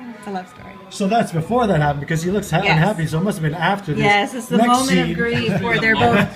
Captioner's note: laughter